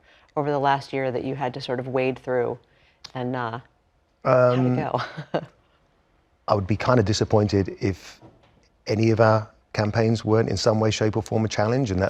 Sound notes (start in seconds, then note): 3.4 laugh